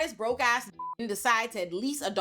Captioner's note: beep